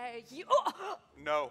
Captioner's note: cry of pain